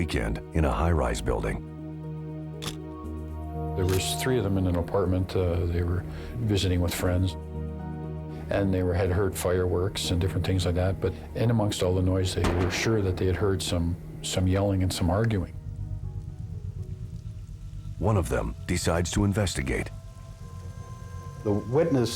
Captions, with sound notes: THE LONG WEEKEND IN A HIGH RISE BUILDING. (shutter click) THERE WAS THREE OF THEM IN THE APARTMENT, THEY WERE VISITING WITH FRIENDS. AND THEY HAD HEARD FIREWORKS AND DIFFERENT THINGS LIKE THAT. IN AMONGST ALL THE NOISE, THEY WERE SURE THEY HAD HEARD SOME, SOME YELLING AND SOME ARGUING. ONE OF THEM DECIDES TO INVESTIGATE.